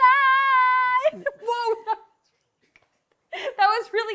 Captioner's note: laughs